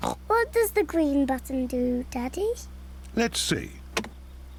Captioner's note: snorting